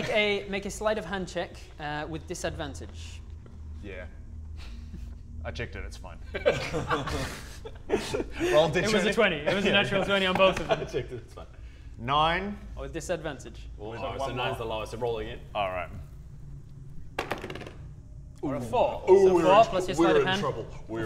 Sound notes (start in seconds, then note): 6.3 laughter